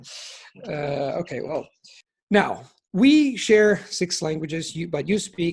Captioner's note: in English